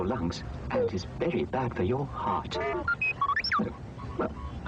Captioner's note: R2 beeps